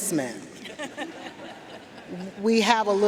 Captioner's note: audience laughing